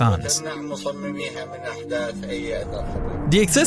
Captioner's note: Saddam speaking in foreign language